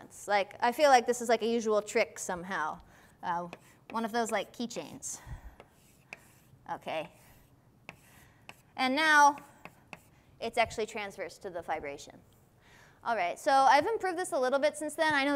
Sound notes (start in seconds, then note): none